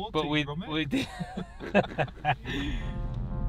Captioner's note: laugh